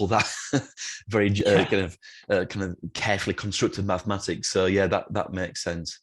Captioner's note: laughs